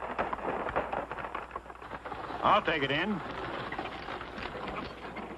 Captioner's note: none